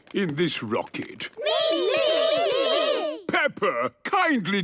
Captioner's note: calling out in turn